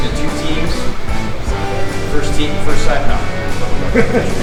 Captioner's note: laughter